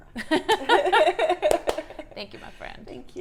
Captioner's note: laughs